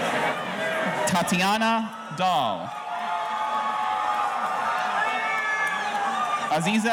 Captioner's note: audience cheering